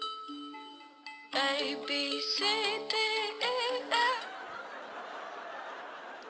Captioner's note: melody plays; audience laughs